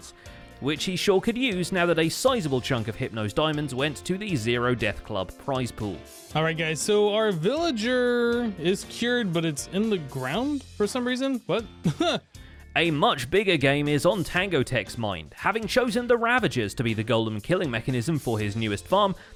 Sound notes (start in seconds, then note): 11.8 laughs